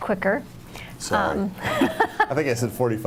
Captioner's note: laughing